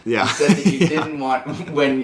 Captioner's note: laughs